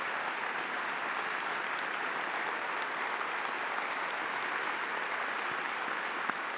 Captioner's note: audience continues applauding